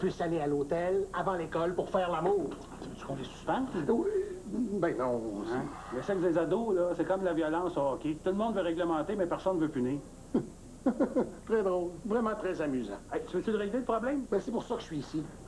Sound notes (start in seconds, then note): 10.8 Ricanement